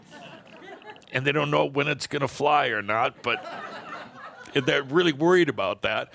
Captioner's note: more laughter